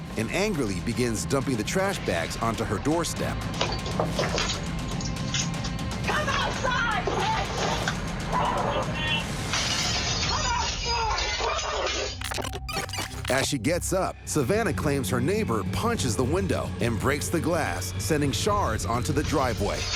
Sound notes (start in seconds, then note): 9.5 glass breaking; 12.1 tape rewinding